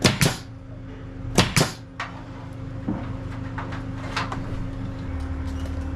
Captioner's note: air nailer chorus